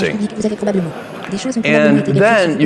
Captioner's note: audience laughing